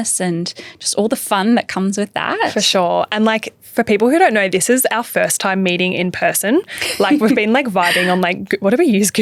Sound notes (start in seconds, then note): 6.8 laughs